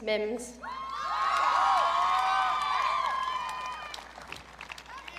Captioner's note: audience cheering